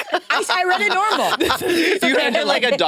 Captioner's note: participants laughing